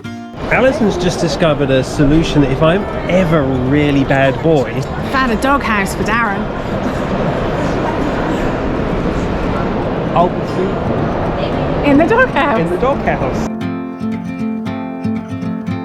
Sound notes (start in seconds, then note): 12.0 laughs